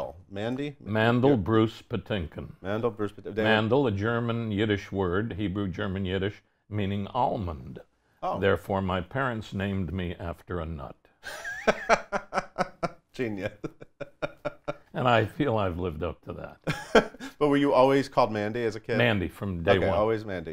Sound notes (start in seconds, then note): 11.2 laughs